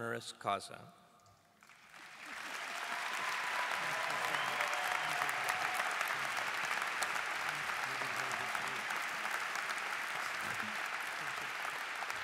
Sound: cheers and Applause

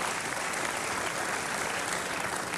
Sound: applause

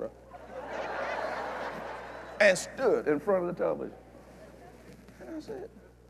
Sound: laughter

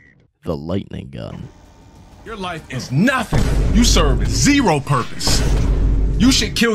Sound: crash

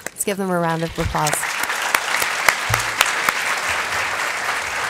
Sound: applause

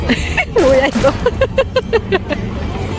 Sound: bam! Bam!

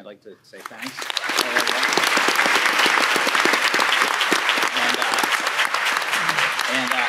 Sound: audience applauding; mumbling

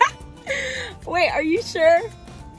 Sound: laughs

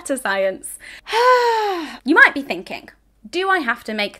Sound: sighs

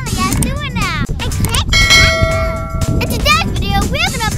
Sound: bell dings

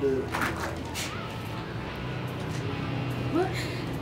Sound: door opens

